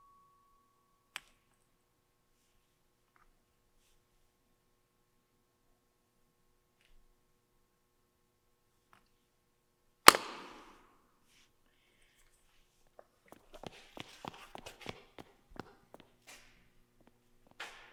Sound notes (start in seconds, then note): 10.1 lid clicks; 13.6 footsteps stomping